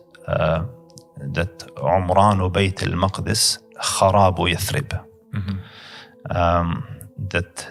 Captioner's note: Arabic